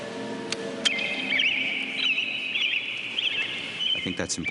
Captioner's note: birds chirping